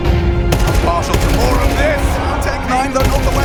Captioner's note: rifle firing